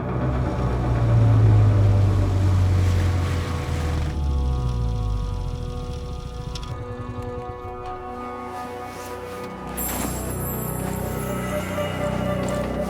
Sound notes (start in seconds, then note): 0.0 engine revving; 5.3 soft music